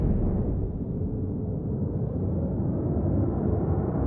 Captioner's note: wind blowing